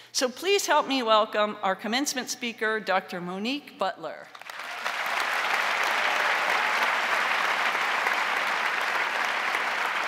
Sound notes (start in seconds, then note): 4.3 crowd applauding